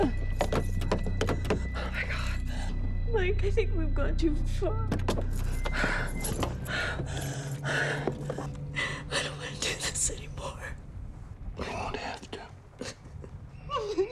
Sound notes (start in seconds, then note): 0.1 handle clicking; 5.5 Jill panting